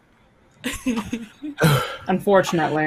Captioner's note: laughs; exhales loudly